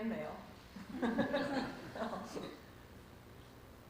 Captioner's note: laughs